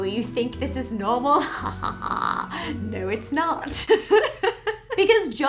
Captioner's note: laughs